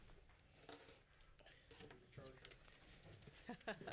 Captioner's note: laughs